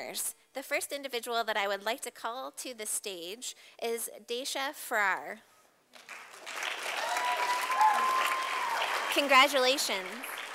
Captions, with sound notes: The first individual that I would like to call to the stage is Daysha Frair. [Sound of applause from audience] Congratulations.